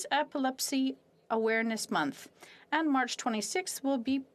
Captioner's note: speaking French